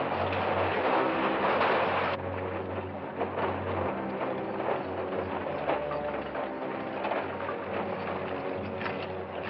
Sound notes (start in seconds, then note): 2.0 wagon rattling near